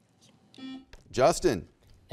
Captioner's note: buzzer beeps